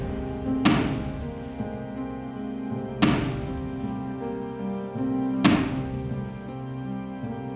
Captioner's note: pounding noises